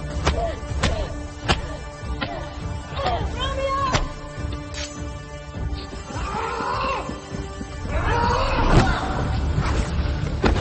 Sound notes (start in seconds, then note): 4.3 tense music continues; 6.8 Romeo screaming